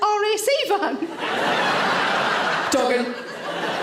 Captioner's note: audience laughs